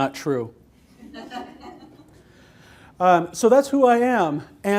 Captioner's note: laughter